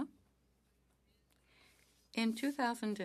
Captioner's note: speaking French